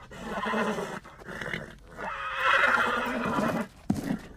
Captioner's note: snorts, neighs; neighs